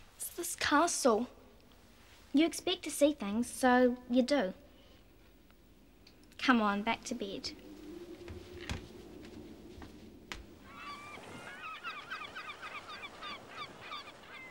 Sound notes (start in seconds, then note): 10.6 seagulls cawing